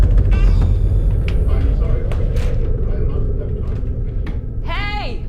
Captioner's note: television chatter